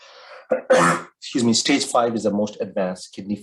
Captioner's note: coughs